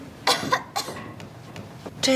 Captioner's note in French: Tousse